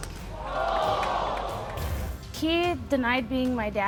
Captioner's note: audience exclaims